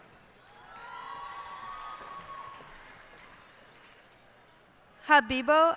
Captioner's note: cheers and applause